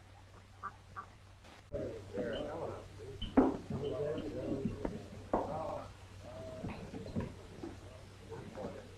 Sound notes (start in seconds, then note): 1.6 people chattering